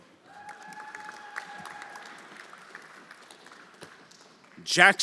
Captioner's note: everyone applauding